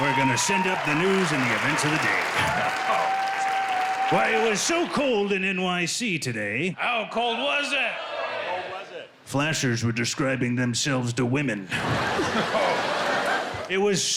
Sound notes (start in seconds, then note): 3.4 applause; 11.6 laughter